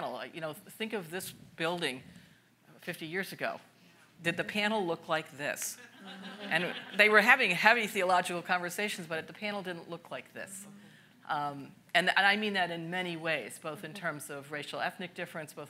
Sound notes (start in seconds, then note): 5.9 audience laughs